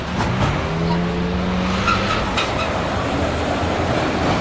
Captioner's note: truck engine roaring